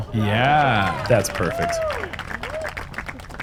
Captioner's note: applause